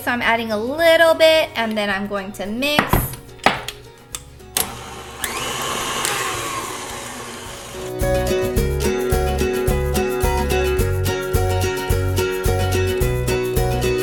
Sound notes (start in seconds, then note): 4.6 whirring; 7.7 lively music